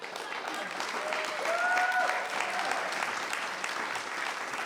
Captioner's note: cheering and applauding